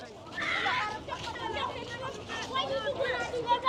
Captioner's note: children chattering